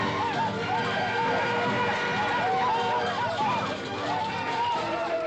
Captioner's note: indians yelling